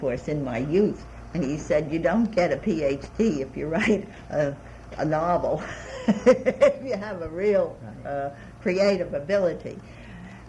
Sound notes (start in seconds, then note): 5.6 laughs